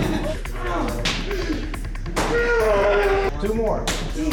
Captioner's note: grunting